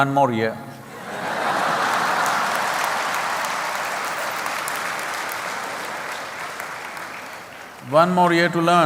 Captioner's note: laughter/Applause